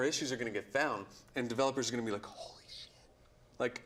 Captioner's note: whispers